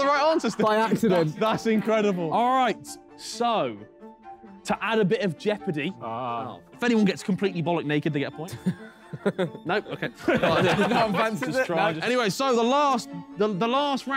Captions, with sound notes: So you still got something? You got the right answers today. - By accident. That's incredible. - All right, so to add a bit of jeopardy, if anyone gets completely ******* naked to get a point. Nope, okay. [everyone laughs happily] Anyway, so the last round. - Huh?